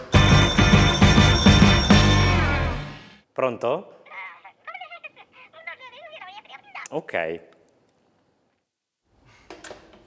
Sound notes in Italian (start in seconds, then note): 0.0 squilla il telefono; 4.2 vociare indistinto